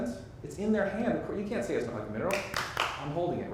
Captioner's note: clapping